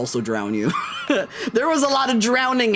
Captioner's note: laughs